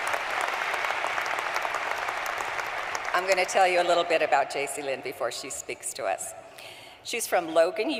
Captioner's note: applause